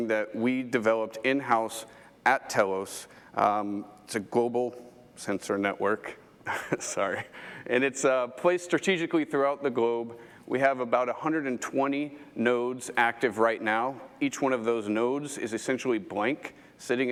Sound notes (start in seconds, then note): 6.4 chuckles